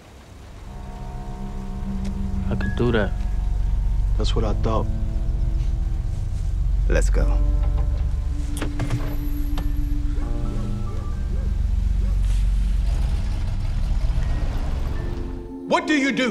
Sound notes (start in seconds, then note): 0.7 tense music; 8.1 dog barking; 8.1 tense music continues; 12.8 engine rumbling; 14.7 soft music